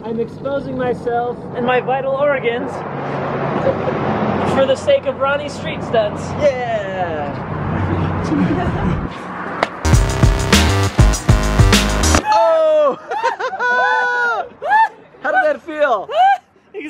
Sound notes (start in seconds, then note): 9.8 electronic music; 12.0 audience cheers